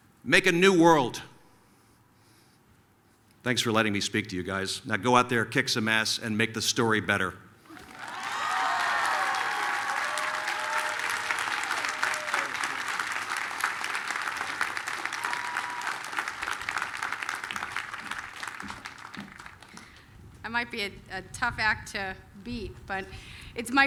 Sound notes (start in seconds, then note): 7.7 applause, cheering